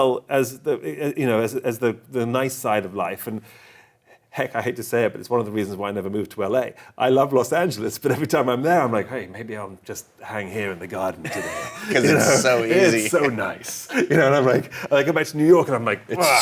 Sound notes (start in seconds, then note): 11.2 both laughing